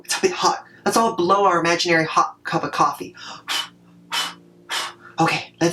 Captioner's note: short blows